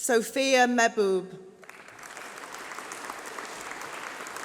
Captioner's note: applause